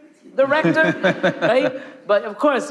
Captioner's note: laughing